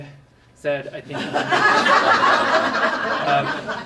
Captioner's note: laughter